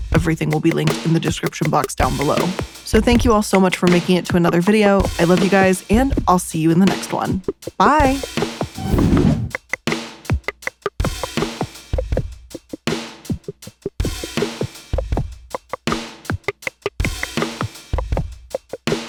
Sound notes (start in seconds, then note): 8.7 logo whooshes; 8.9 gentle digital music